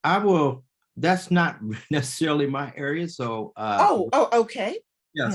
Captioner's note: chuckles